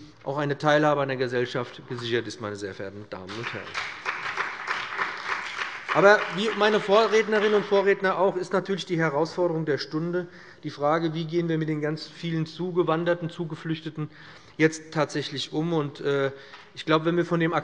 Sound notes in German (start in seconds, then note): 3.2 Beifall bei dem BÜNDNIS 90/DIE GRÜNEN und der CDU